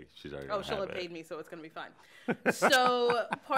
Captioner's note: chuckles